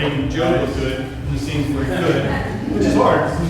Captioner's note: laughter